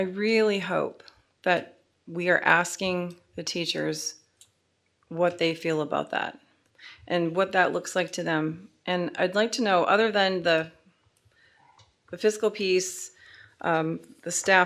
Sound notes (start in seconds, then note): none